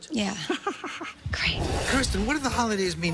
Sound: laughs

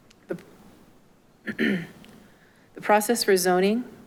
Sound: clerk clears throat

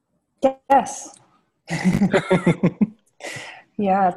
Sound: laughter

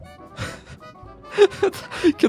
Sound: laughter

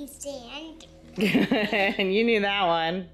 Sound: laughing

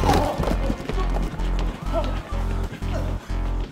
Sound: zombie growling; body thuds

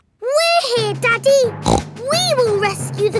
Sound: snorts

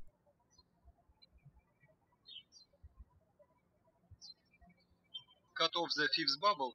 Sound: birds chirping

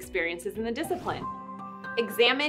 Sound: air whooshing

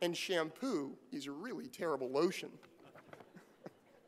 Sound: laugh

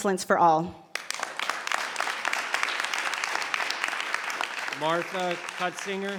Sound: audience applauds

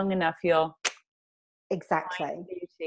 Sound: claps hands

